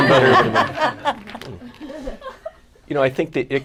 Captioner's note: laughter